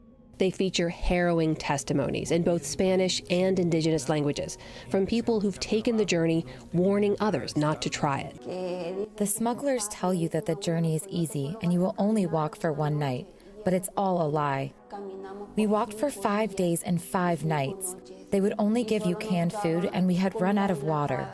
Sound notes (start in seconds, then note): 8.5 through translator